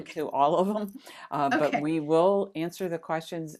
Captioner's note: gasping